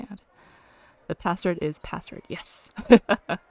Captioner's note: laughs